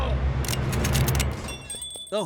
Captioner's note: guns cocking